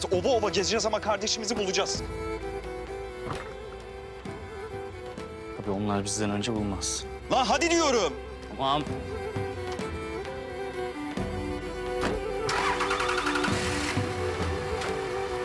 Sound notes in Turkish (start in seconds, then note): 12.0 Kapı Kapanma Sesi